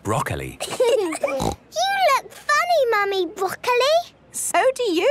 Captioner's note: laughing, snort